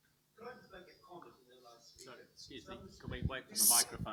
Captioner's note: someone speaking off mic